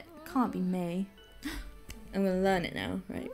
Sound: gasps

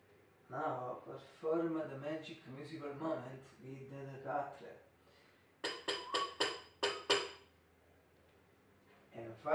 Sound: whistle

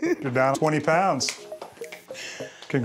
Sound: claps

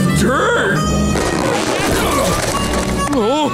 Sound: grunting

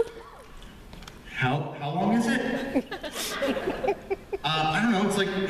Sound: laughter

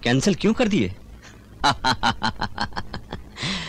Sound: laughing

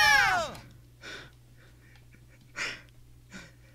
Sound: Sonic, Tails, and Amy all screaming; otter quietly laughing

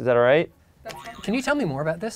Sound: boing

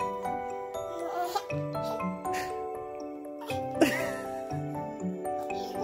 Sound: baby Coos; dad laughs; baby laughs

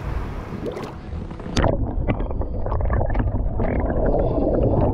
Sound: water gurgles

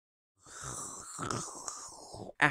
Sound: slurps

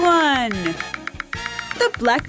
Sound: frog clicks

